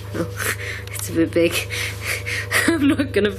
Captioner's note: laughing